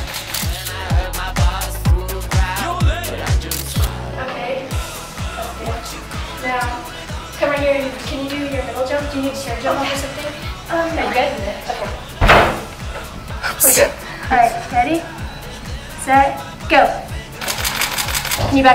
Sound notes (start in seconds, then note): 0.1 camera shutter clicking; 12.2 crashing; 13.4 giggles; 17.4 camera shutter clicking